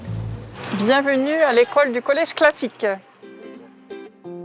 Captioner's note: French spoken audio